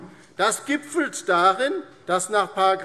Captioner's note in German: none